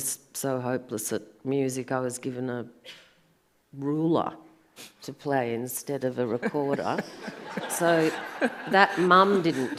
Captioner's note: audience laughs